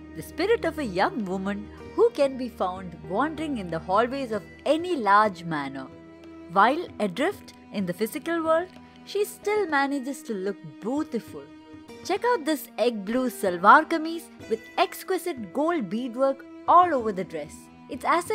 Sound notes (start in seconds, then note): none